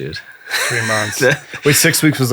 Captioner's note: laughing